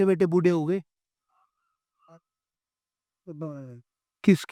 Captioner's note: silence